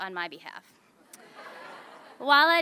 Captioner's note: laughter